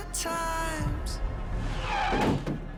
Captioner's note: tires screech